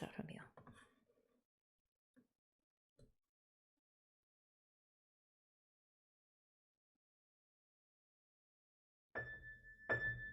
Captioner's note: silence; piano music